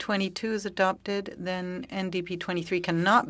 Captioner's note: speaking french